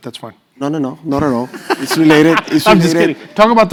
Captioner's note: laugh